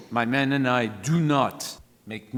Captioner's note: none